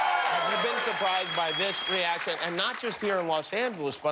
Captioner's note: cheers and applause